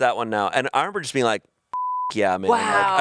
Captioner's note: beep